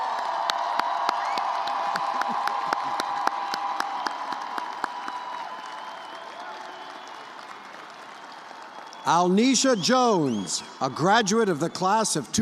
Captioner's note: cheers and applause